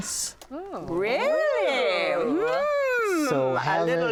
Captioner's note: ladies exclaiming